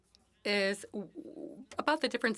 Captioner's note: speaking French